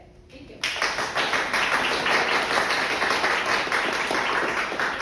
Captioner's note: crowd applauding